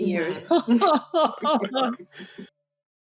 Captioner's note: laughing